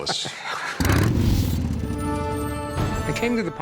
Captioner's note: laugh